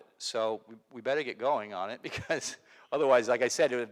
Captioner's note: laughs